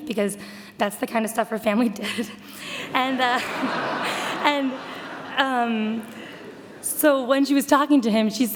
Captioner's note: audience laughter